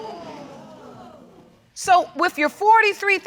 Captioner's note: audience gasps